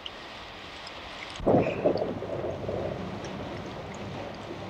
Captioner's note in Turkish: Gök gürültüsü